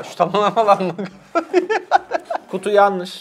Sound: laughs

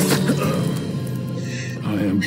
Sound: sharp inhale

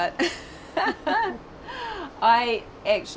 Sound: laughing

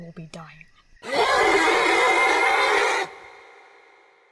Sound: distant scream

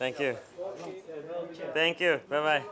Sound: speaks in foreign language

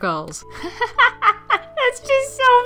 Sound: laughs

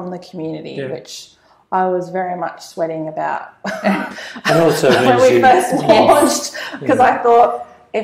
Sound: laugh

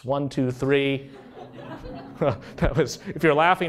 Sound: laughing while humming

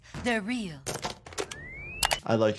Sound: defibrillator clicks

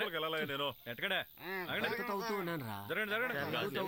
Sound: crowd m uttering

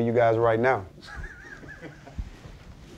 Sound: laughing

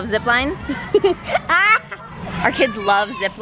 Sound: laughing

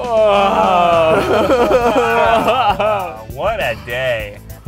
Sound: laughs

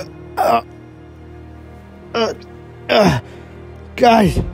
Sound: Elliot struggling

